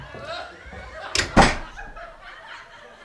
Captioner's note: audience laughing